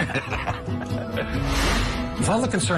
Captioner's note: laughter